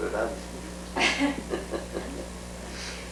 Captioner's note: laughter